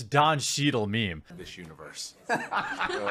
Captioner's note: laughs